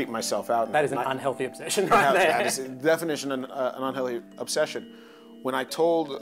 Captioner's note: laughs